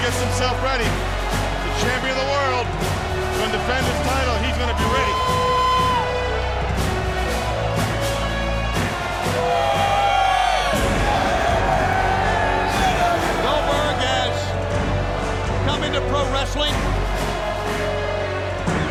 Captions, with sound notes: He gets himself ready to champion the world. Undefended title, he's gonna get ready. (crowd cheering continues) (upbeat music continues) Goldberg has come into pro wrestling